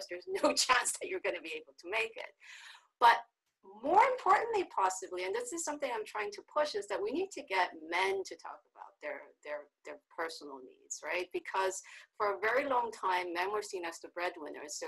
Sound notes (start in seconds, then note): none